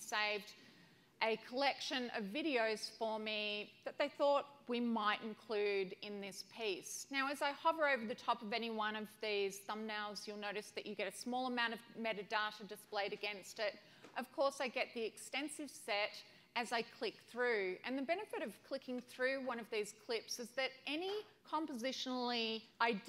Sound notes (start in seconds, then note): none